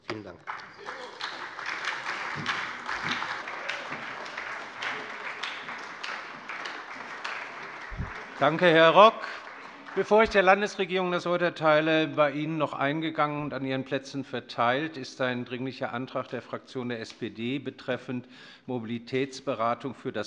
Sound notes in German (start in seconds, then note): 0.1 Beifall bei der FDP, der SPD und der LINKEN